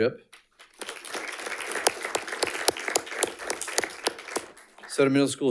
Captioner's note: audience applauding